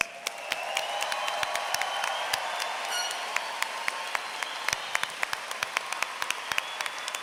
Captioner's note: applause